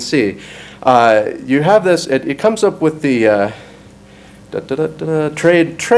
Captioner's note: hums